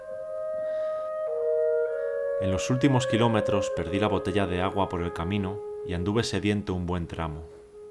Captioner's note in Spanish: Voz en off